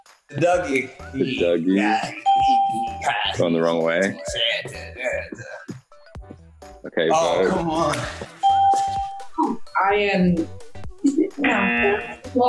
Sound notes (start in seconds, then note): 3.6 hums; 8.4 ding; 11.5 buzzer